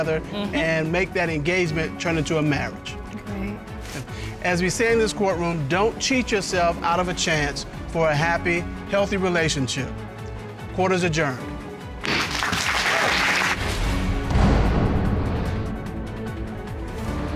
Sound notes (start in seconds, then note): 12.1 gavel pounds; 14.2 dramatic music playing